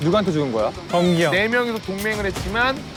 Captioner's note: crying